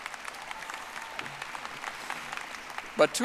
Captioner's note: audience applauding